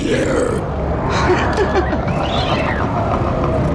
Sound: laughs

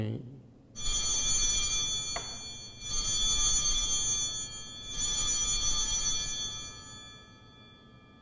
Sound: bells ringing

